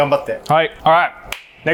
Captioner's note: chef speaks Japanese